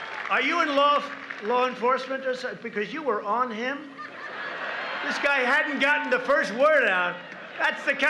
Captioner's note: applause